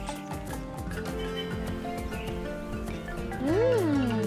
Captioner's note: birds chirping